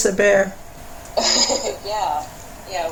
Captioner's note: laughter